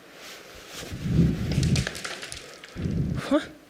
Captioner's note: Rocks hitting Leo